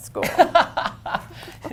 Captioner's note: laughter